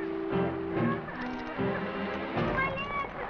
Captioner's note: sobbing